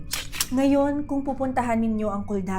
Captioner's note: camera shutter sound